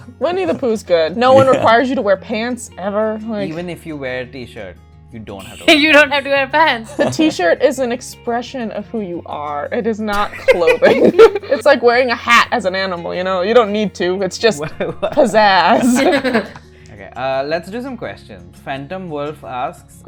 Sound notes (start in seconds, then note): 6.8 laughs; 10.2 laughter; 15.6 laughter